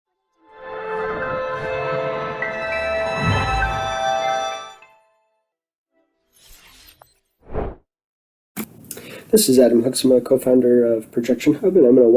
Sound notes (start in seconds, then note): 0.5 futuristic ambient music; 6.3 swoosh